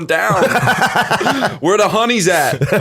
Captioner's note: laughter